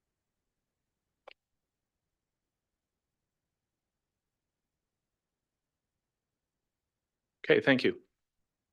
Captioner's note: mouse clicking